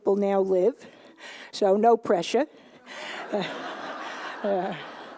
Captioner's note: laughter